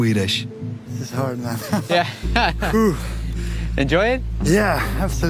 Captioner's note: laughs